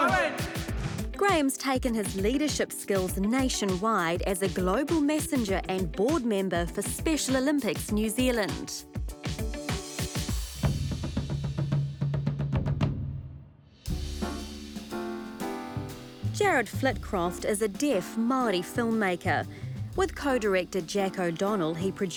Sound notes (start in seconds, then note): 10.2 whoosh!; 11.8 drumbeat; 13.8 jazz music